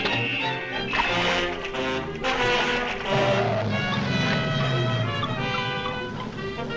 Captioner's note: light dramatic music; water splashing